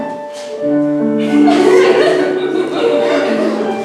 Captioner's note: giggles